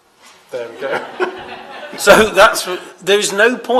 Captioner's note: laughter